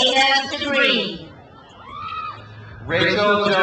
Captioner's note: crowd cheers